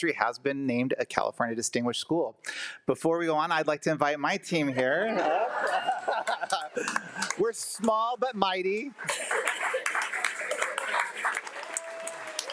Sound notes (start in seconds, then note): 4.8 all laugh; 9.0 audience applauding